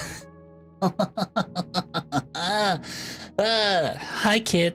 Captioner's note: pained laugh